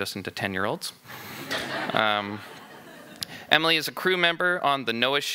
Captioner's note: laughing